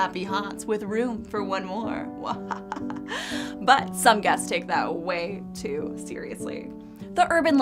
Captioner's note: muwhahaha